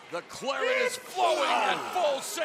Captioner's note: crowd cheering